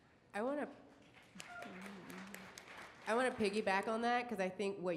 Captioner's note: audience applauds